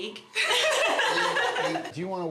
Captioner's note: laugh